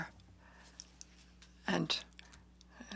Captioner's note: speaking in French